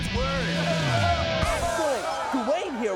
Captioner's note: crowd cheering